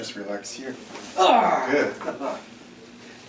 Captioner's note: groans; chuckles